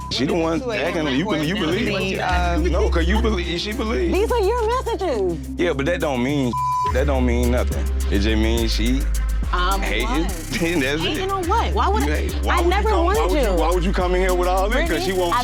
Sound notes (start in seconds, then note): 6.5 beep